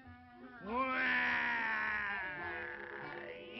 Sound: growl

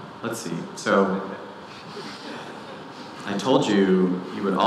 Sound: audience laughing

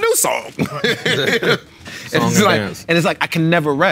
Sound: laughing

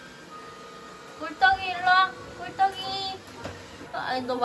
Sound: the vacuum

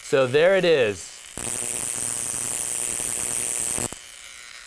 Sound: buzzing

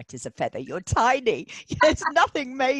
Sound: laughing

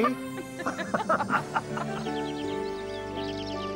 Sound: laughing

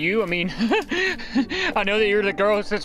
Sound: nervous flustered laughter

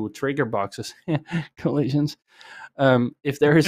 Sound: laughs

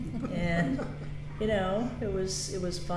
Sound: laughs

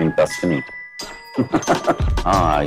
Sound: laughs

